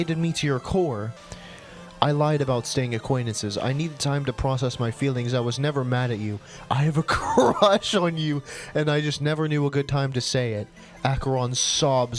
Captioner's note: cracks up while reading